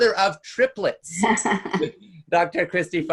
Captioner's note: laughing